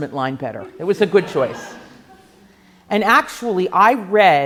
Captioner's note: laughing